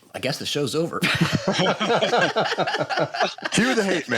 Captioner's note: laughter